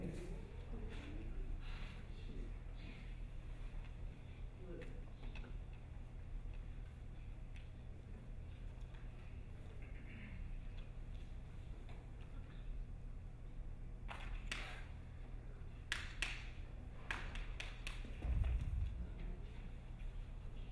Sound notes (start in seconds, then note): 13.9 hands slapping; 18.2 dancer thudding